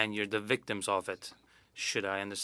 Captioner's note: speaking French